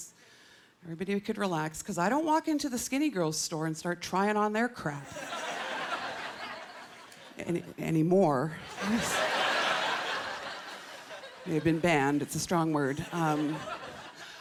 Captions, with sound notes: then everyone could relax because I don't walk into the skinny girls' store and start trying on their crap... anymore. (Laughter) I've been banned. It's a strong word.